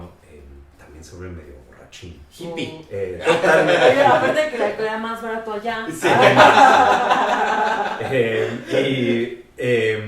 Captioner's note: laughs